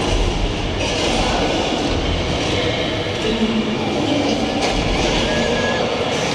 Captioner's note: Kong and dinosaurs roaring; tourists shouting